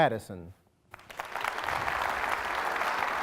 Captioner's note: applause